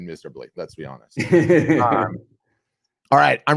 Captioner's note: laughing